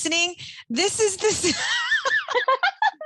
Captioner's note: laughing